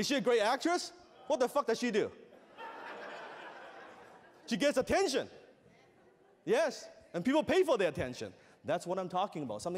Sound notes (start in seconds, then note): 2.4 laughter